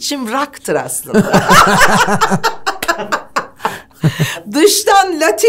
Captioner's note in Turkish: Güldüler